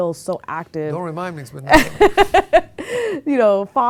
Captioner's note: laughing